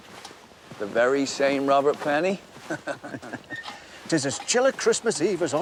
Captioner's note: chuckles